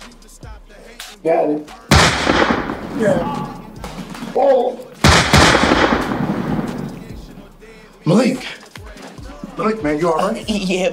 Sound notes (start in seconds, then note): 1.9 guns firing